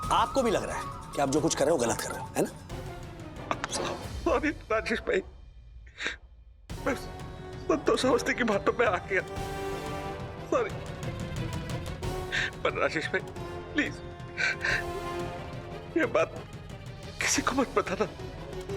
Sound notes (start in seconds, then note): 14.4 sobs